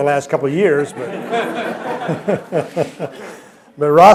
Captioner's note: laughter